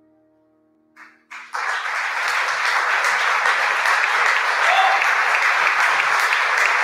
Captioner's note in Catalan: aplaudiments